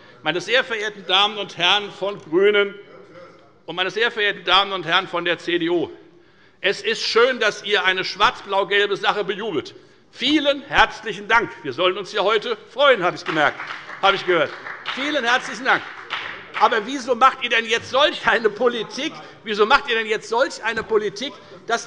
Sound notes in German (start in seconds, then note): 13.1 Beifall bei der FDP